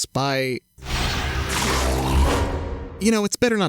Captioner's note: snarls